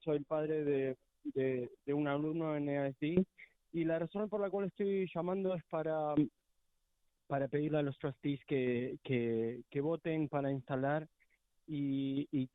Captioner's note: speaking spanish